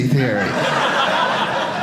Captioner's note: audience laughing